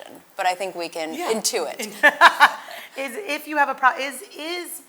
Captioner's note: laughs